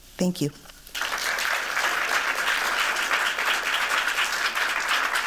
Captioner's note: applause